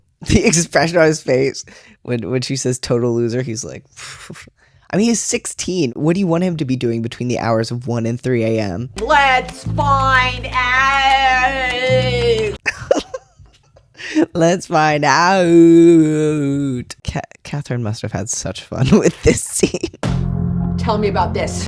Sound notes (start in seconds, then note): 12.6 laughter